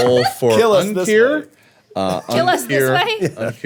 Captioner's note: laughing